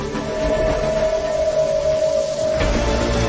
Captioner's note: rain falling; music intensifies